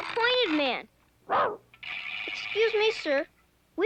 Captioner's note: Arrow barks